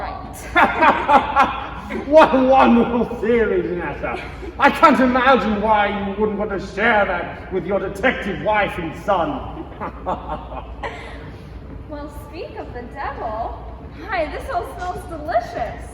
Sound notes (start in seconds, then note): 0.3 chuckling; 9.4 hearty chuckles